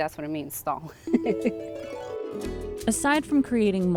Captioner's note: chuckles